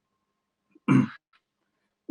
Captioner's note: clearing throat